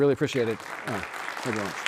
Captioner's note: audience applauding